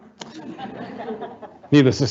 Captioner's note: audience laughing